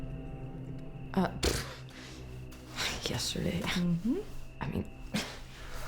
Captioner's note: scoffs